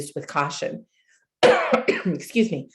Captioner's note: coughing